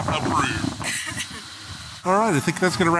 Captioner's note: coughing